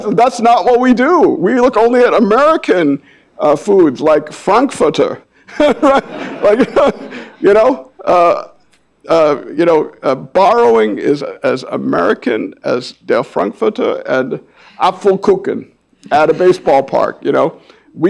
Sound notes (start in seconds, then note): 5.5 audience laughing; 5.5 laughs